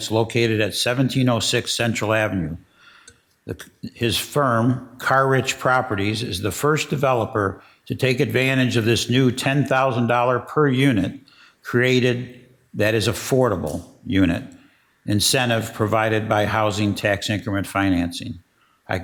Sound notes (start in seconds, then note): none